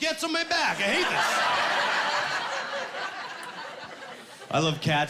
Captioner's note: laughing